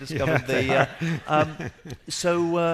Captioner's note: laughing